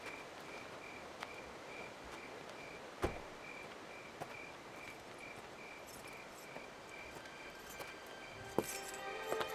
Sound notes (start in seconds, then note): 5.8 keys jingling; 7.0 somber music